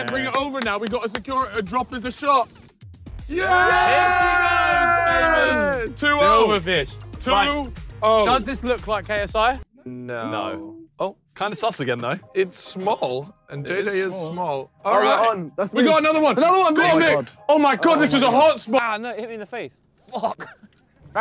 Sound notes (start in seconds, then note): 0.0 claps; 3.2 men cheers